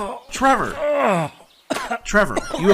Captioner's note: groans